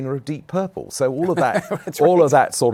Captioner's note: laughing